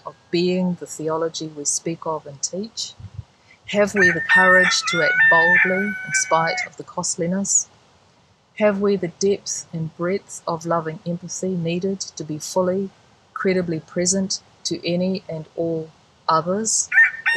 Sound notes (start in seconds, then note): 3.9 rooster crowing; 16.9 rooster crowing